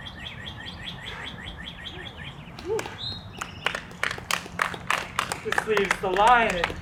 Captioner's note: clapping